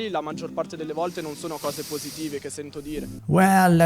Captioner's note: inhale